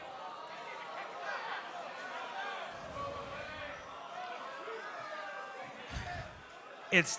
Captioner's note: crowd response